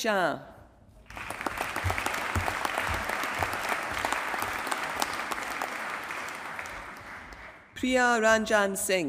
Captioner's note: applause